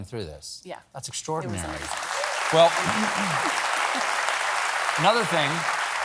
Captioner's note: applause